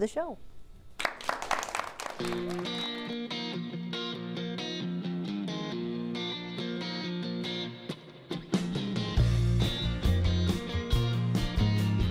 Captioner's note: applause